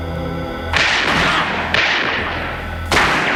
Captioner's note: gunshot